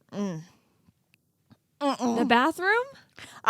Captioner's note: girls making disgusted sounds